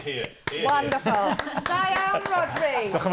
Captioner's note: speaking welsh